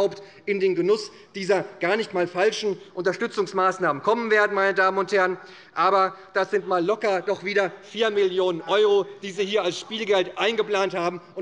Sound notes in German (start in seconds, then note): none